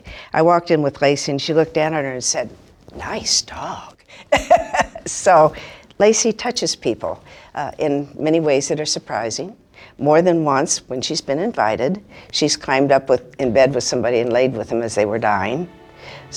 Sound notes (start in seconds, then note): 4.3 laughs